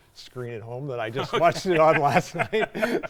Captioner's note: both laughing